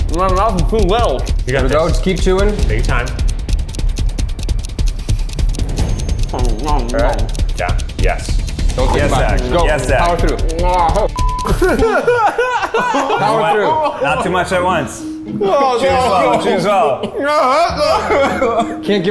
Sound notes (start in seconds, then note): 6.3 making pained noises; 11.0 beep; 11.4 laughs; 17.2 groaning